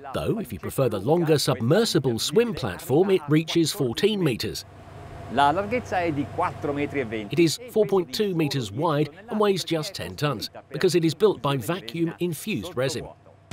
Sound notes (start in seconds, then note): 5.5 speaks Italian